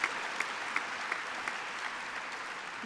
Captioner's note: applause